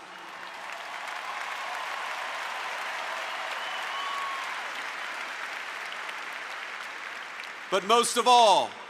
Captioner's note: applause